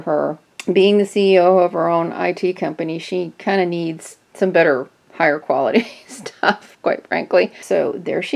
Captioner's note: chuckles